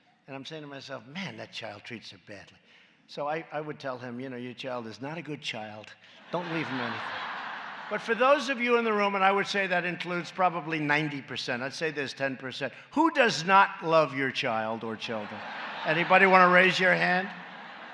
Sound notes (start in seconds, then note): 6.2 laughter